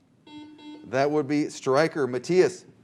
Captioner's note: buzzer